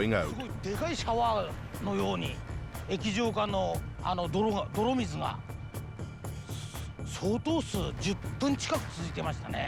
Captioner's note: speaking Japanese